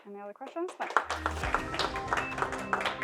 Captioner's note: audience applauding; upbeat music